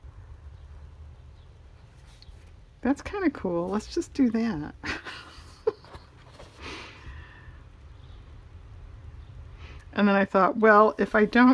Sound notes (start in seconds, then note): 7.9 laughs